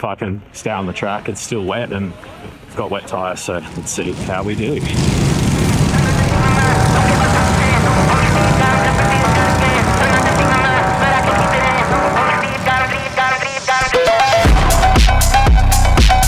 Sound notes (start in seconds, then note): 5.9 engine revs; 12.1 upbeat music